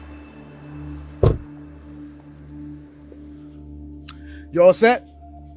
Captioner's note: door closes